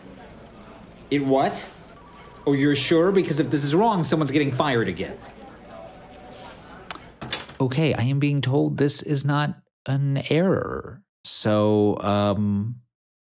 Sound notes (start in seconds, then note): 0.0 people chattering; 7.1 equipment clattering